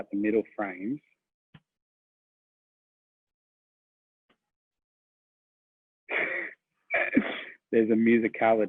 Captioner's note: laughs